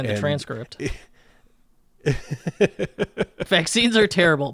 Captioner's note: laughs